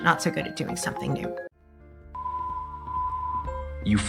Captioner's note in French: bips de l'ordinateur